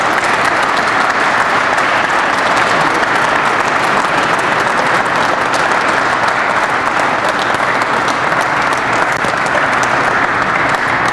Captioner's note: crowd applauds